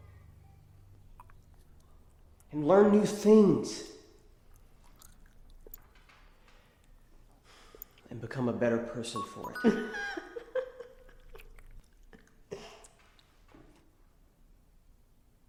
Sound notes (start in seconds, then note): 4.5 loud chewing; 7.6 sighs; 9.7 laughing